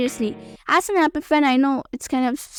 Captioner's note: voiceover